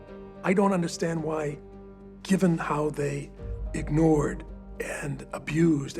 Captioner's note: none